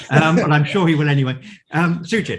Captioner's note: laughing